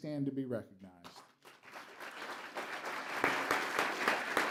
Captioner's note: applause